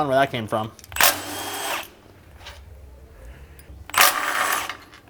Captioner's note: drill whirring